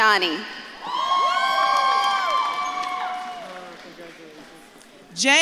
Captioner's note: audience claps and cheers